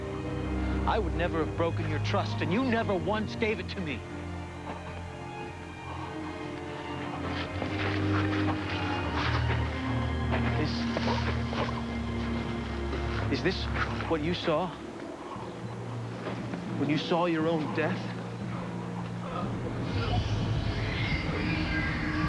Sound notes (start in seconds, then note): 18.4 gasping